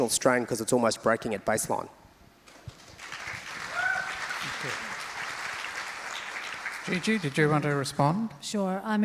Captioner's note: crowd applauds